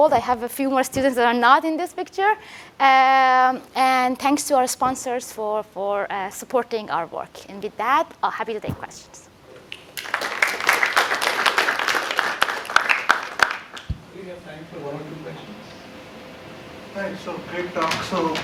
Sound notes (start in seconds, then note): 9.7 applause